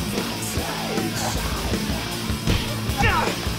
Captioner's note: girl screaming